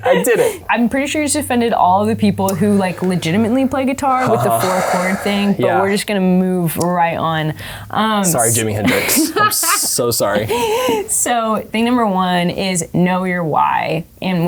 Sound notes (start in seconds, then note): 2.5 sighs; 8.8 laughing